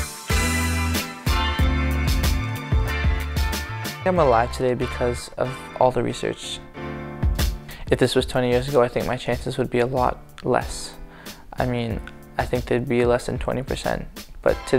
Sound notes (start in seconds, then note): 4.3 voiceover